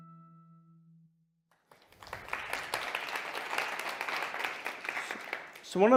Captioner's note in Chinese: 掌聲